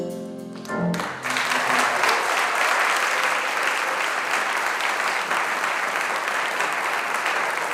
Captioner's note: audience applauding